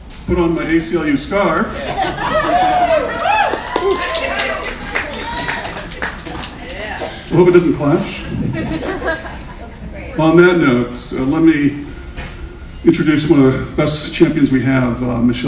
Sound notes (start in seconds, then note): 1.9 audience cheers; 2.3 audience applauds